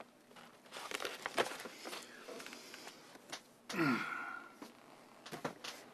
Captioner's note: sighs